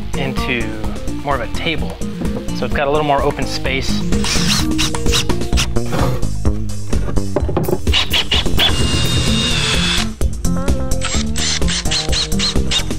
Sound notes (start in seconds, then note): 4.2 drill whirring